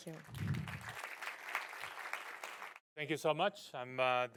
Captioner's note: audience applauding